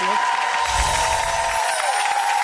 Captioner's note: crowd cheering; shimmery music